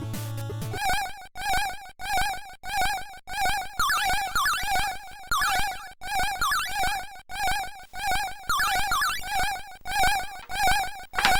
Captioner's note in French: Bruit d'alarme répétitif